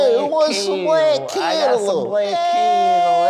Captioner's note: italian accent